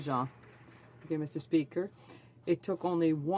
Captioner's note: speaking French